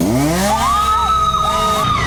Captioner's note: chainsaw whirring; screaming